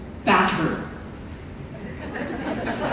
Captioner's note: laughter